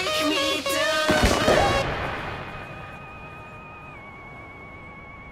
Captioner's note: fireworks exploding